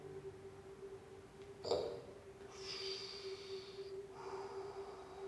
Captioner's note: blows